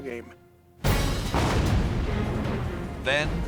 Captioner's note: explosion